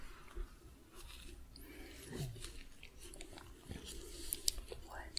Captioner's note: sticky sounds, stroking